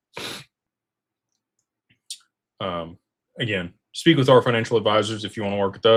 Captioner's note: snorts